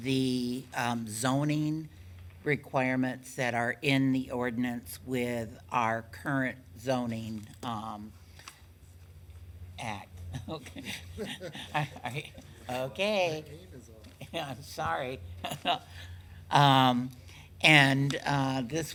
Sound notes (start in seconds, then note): 10.3 members laughing